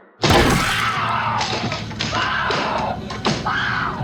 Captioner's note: wood cracking; screams